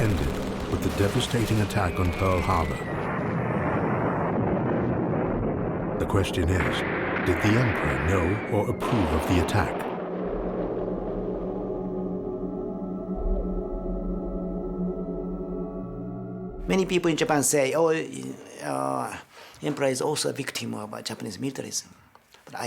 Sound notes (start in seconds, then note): 3.1 explosions booming; 9.9 soft ominous music